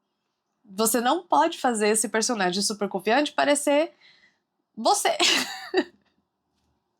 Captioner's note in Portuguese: risadas